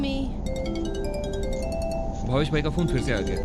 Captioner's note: phone ringing